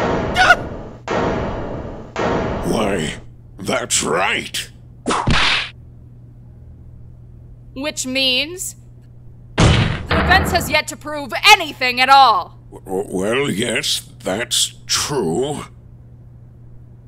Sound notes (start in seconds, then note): 5.0 whip crack!